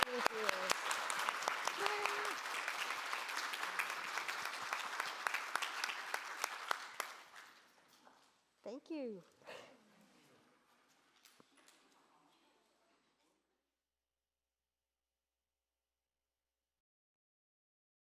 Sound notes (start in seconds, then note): 2.3 audience applauding